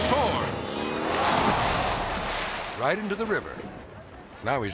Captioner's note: water splashing